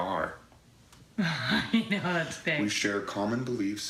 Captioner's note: Risos